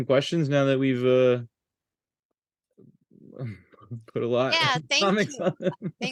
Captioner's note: chuckles